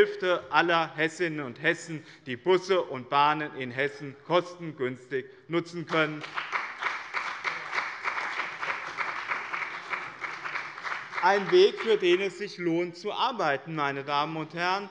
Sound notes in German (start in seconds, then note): 5.8 Beifall bei dem BÜNDNIS 90/DIE GRÜNEN und der CDU